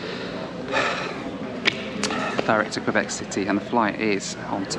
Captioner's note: sigh